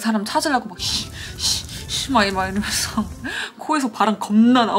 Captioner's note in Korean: 씨익 씨익